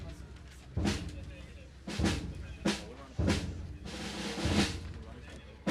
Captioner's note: audience chatting indistinctly